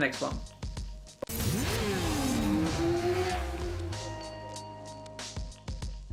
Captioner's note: motorcycle engine roaring